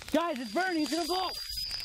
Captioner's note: crackling